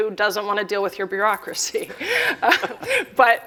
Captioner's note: laughter